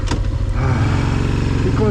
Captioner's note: sigh